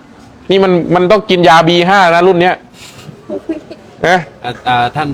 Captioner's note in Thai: เสียงสูดหายใจ